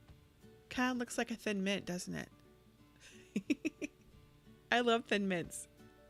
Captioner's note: giggles